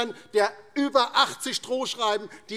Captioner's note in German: none